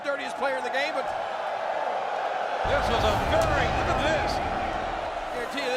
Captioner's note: applause